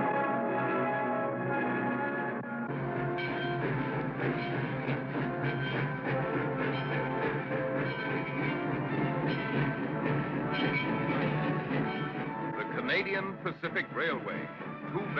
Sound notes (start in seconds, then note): 3.1 train bell rings; 3.1 train chugs